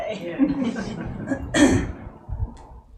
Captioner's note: audience laughing